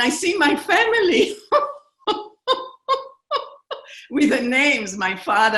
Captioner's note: laughter